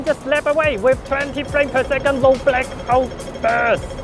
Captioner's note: groaning